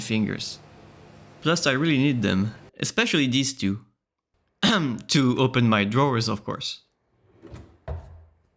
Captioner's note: cough